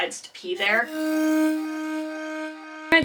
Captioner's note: flashback noise